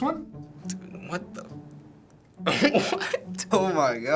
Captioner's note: laughing